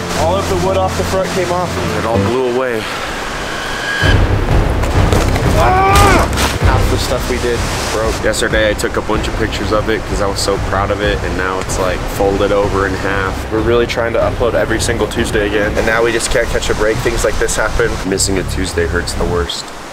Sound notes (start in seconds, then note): 3.5 intense music; 5.7 shouts